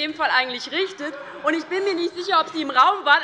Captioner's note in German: Heiterkeit bei der LINKEN und der SPD